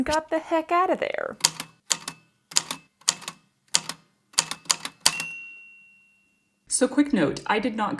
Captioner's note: A typewriter clicks away, then dings